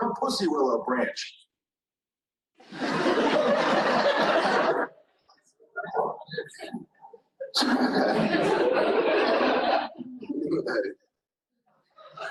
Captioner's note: laughter